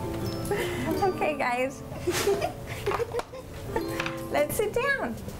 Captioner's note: kids giggle